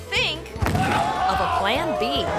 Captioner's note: thuds